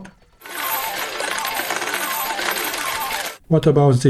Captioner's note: sound of slot machine dropping coins with enhanced SFX